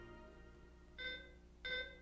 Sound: alarm beeping

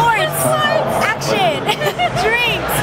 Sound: laughs

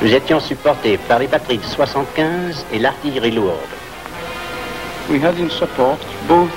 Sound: man speaking in foreign language

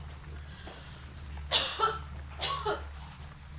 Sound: coughs

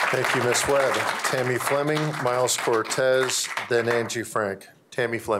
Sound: applause

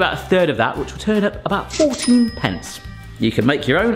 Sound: bell dings

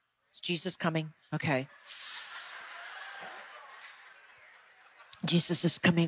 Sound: audience laughing

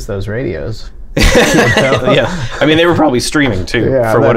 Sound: laughter

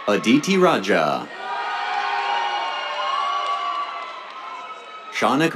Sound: cheers, applause

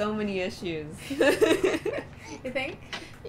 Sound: laughter

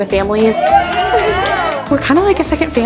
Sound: people cheering

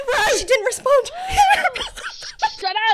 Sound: laughing

